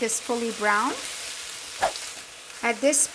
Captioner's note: pan sizzling